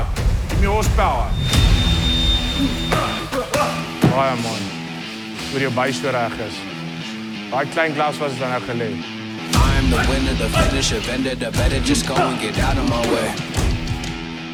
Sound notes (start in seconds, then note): 1.3 timer chimes; 3.0 du Plessis grunting; 4.0 Morne speaking in foreign language; 9.6 man rapping